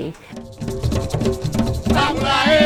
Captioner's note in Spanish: Tamborileo